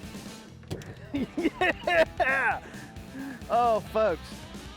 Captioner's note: laughing